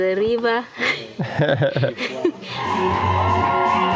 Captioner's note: laughing; vibrant music